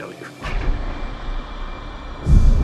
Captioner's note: whooshing